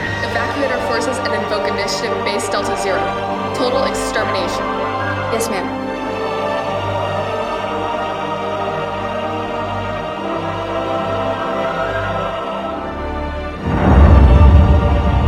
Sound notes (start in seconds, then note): 13.6 massive explosion